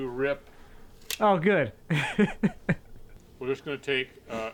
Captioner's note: laughs